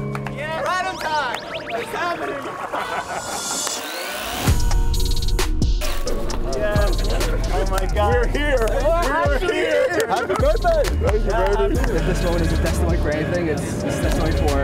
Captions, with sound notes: Right on time. This is happening! ( laughs ) - Oh, my God. - We're here, man. We're here. - How did you get here? - Happy birthday! Thank you, baby.